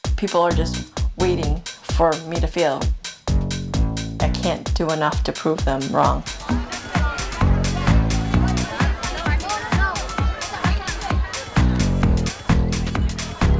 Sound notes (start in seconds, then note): 6.2 crowd murmuring; 6.6 upbeat music